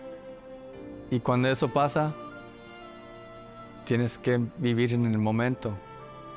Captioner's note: Alonso continues speaking in Spanish